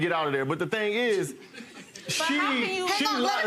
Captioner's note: audience laughing